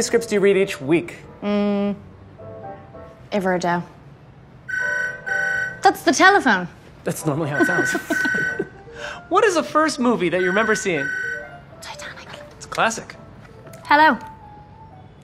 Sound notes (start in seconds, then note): 3.4 speaking In Irish; 4.7 telephone rings; 7.5 laughs